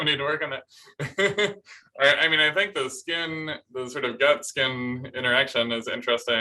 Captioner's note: laughter